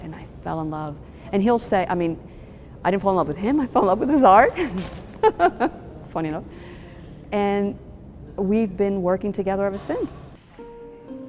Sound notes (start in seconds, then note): 4.4 laughs